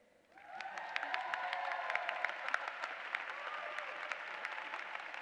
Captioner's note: applause